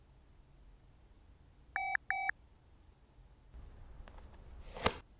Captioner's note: phone chimes